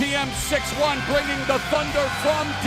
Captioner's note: crowd cheering; bell ringing